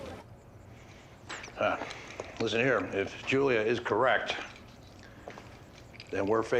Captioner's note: grunts